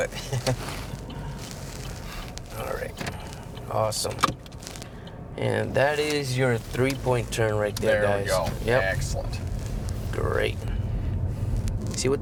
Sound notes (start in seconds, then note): 0.1 chuckles; 4.4 gearshift ticks